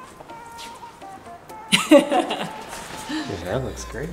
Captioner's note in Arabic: يضحك